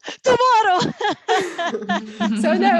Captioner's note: laughter